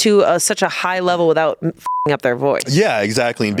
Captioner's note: beep